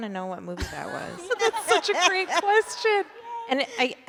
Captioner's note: laughing